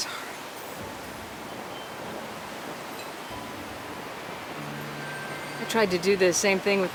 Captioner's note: piano music; wind whooshing